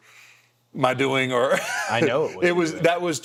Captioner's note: The Undertaker laughing